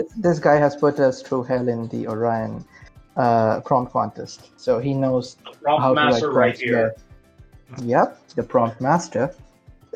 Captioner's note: laugh